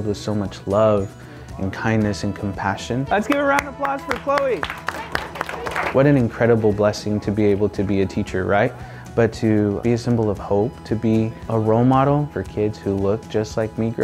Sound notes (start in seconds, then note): 4.9 students applaud